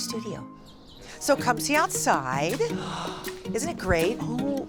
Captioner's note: gasps